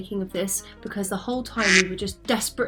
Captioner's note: duck quacks